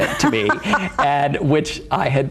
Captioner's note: laughs